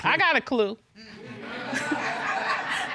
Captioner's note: laughter